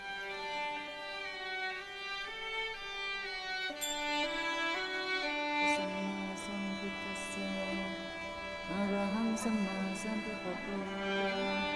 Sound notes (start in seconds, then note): 0.3 soft string music; 6.0 chanting in foreign language